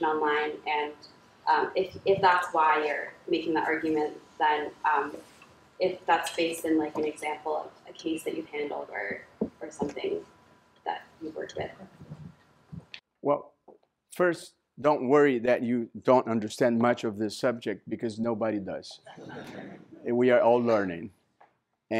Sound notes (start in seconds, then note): 18.9 laughter